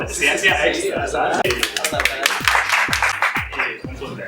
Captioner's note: applause